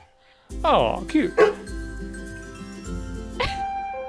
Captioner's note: dog barking; eerie piano music